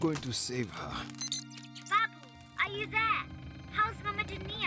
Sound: beeping

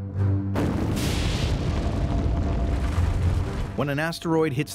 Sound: explosion

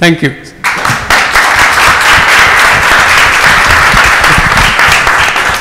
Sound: audience applauds

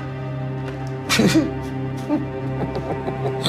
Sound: Pierre laughs

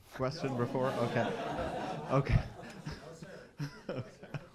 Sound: audience laughing

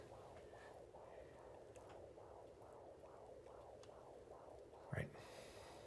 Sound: ultrasound pulsing

